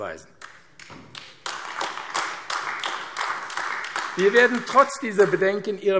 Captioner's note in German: Beifall AfD